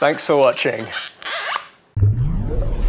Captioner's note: scratch